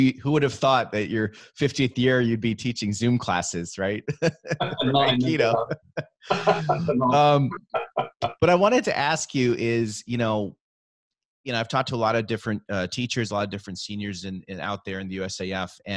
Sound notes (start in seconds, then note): 4.0 laughing; 6.2 both laughing